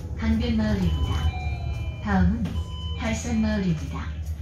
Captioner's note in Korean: 하차벨 소리